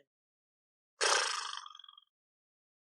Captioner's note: blows raspberry